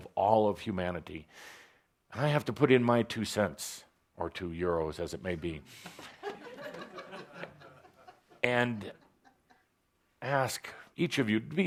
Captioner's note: laughter